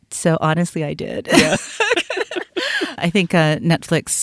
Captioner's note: both laugh